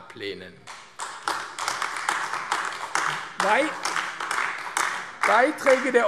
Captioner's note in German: Beifall AfD